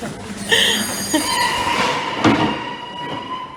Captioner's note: bell